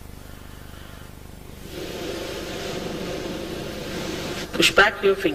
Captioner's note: shri mataji blows into the microphone